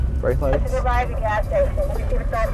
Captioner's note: on walkie-talkie